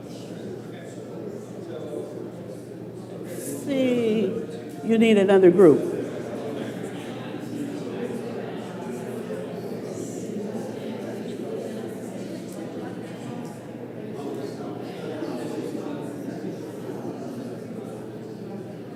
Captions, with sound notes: Let's see. You need another group. [CROWD CHATTER]